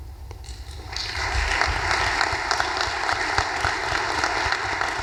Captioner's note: audience applause